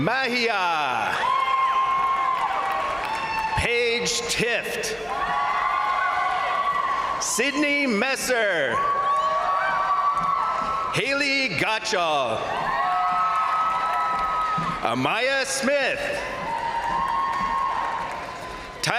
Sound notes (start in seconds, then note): 0.2 crowd cheering; 1.0 crowd applauding; 5.0 crowd cheering; 5.0 crowd applauding; 8.7 crowd cheering; 11.9 crowd applauding; 12.2 crowd cheering; 15.8 crowd applauding; 15.9 crowd cheering